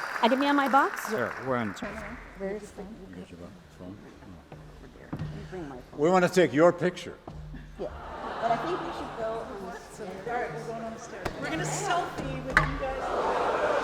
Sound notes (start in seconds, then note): 2.0 professors chattering; 10.6 professors chattering; 12.8 audience laughs